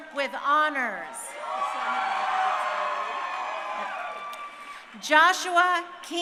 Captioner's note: crowd cheering